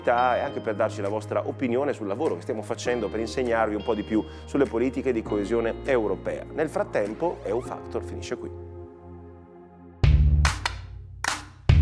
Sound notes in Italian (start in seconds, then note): 10.4 Applauso